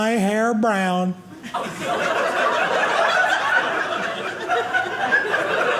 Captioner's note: audience laughing